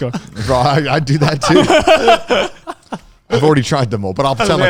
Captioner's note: laughs